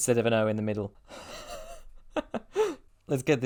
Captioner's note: wheezy laugh